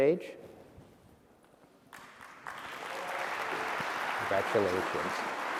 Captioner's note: applause